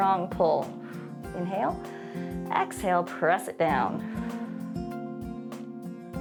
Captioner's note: exhales